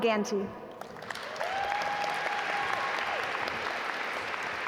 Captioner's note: audience applaud